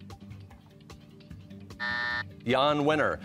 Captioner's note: buzzer